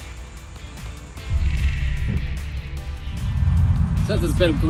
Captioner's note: rumble